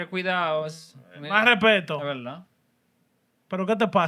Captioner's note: speaking Spanish